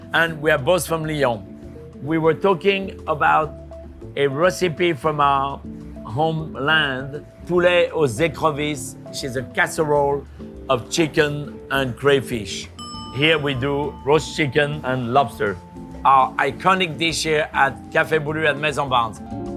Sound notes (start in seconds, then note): 12.7 bell dinging